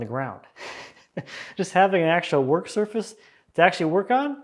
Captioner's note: chuckles